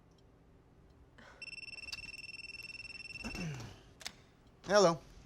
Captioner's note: telephone ringing